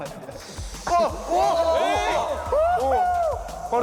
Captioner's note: air coming out